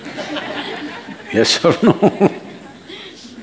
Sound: laughter; laughs

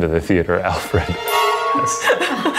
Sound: rods connect and chime; everybody laughs

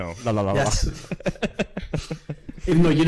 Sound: laughs

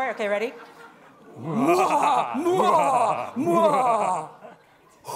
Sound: maniacally laughing

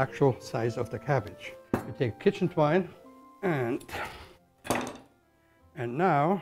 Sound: huffs; knife clanking

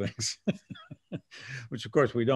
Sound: laughs

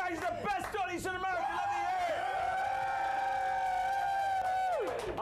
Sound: audience cheering

